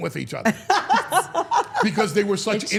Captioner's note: Steph laughing